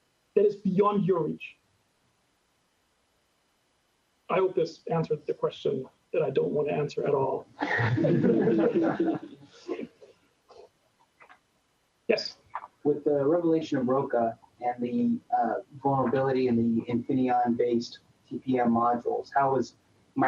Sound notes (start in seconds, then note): 7.6 laughter